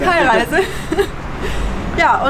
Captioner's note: laughter